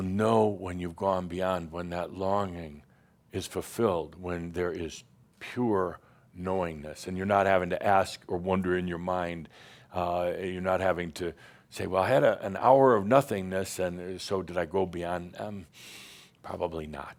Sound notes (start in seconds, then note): none